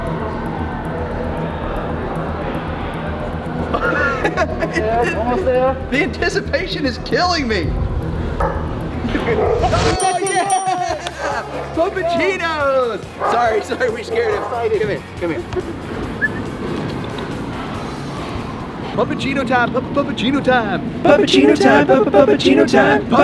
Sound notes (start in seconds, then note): 0.1 suspenseful music; 9.9 cheering; 16.2 gentle whistling and clicking